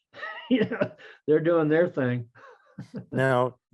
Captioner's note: laughs